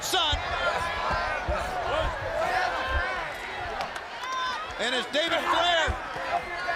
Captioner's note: crowd chatter